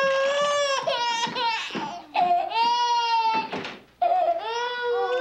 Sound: baby crying

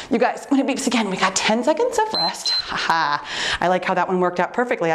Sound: timer beeps

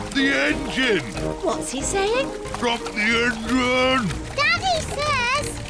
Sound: splutters

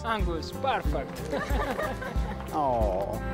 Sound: all laughing

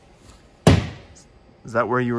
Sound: thud

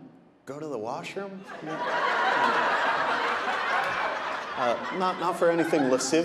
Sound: audience laughing

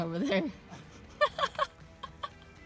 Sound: laughter

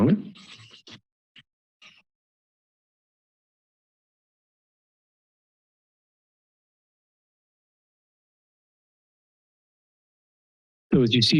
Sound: silence

